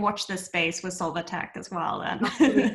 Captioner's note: laughs